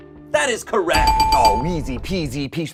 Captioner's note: bell dings